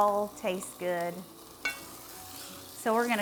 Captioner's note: sausage sizzling